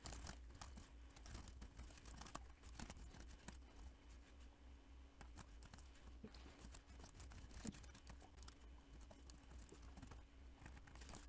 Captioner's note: typing sounds